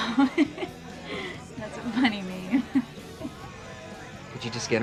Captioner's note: giggling